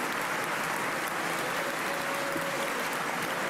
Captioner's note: applause